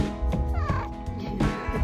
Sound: meow

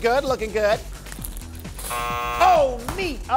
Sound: buzzer

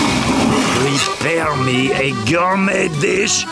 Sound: toilet flushing

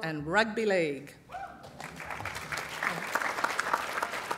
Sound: applause

